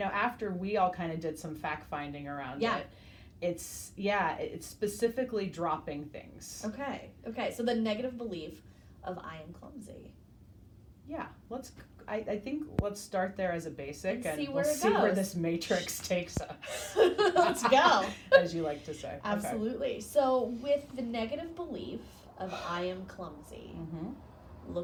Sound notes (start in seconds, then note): 16.6 laughing